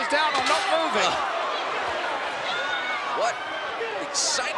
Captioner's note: audience groans